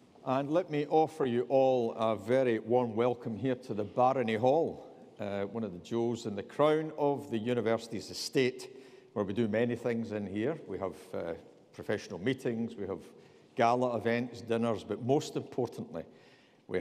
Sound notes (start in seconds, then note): none